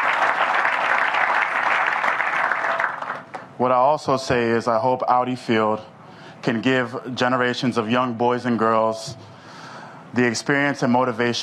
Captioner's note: applause